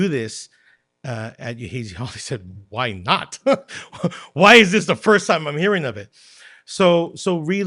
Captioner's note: laughter